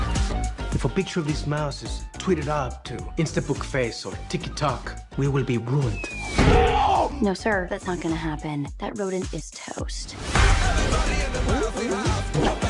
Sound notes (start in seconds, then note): 6.6 yells